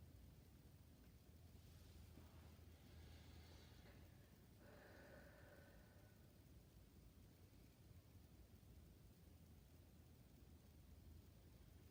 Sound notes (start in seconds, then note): 5.0 breathing deeply